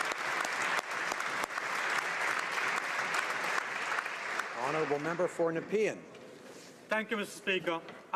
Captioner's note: applause